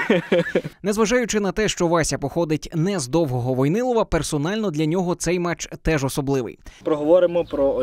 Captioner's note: voiceover